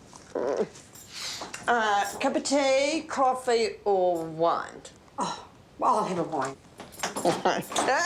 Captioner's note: groans